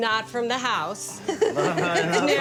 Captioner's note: laughter